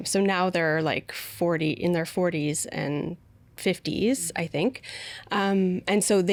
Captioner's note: none